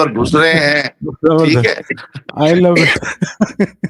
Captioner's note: laughter